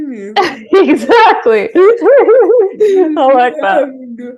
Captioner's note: laughing